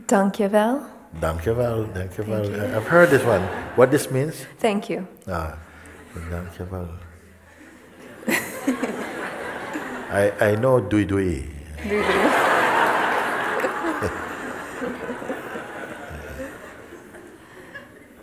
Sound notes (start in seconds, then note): 7.9 laughter; 11.8 laughter